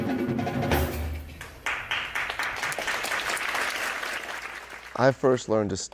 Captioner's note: audience clapping